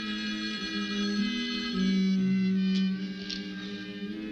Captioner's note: phone ringing